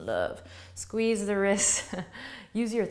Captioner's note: laughs